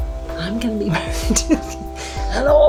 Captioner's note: laughs